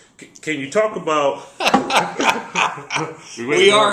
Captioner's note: laugh